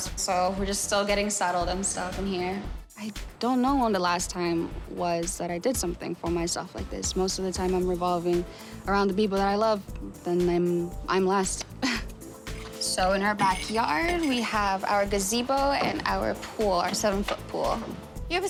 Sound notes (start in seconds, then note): 11.9 chuckles